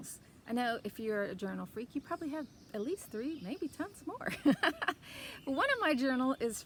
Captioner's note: laugh